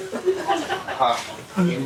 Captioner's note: laughing